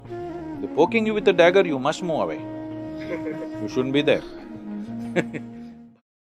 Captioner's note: laughs